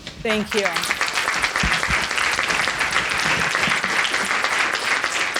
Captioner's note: audience applauding